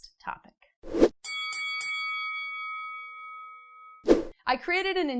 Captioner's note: bell ringing